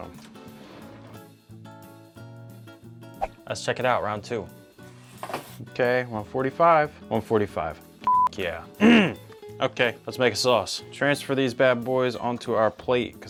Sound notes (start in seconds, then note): 0.3 upbeat music; 8.0 beep